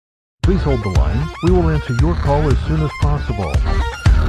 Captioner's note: voice over